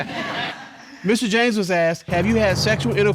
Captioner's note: laughter